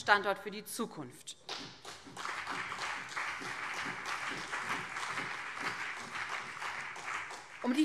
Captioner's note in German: Beifall BÜNDNIS 90/DIE GRÜNEN und CDU